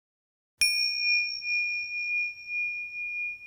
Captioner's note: ding